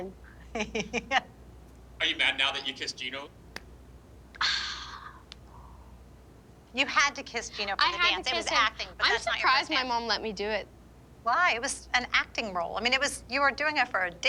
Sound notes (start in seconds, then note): 0.3 laughs; 4.4 sighs